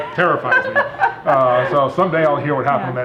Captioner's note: laughing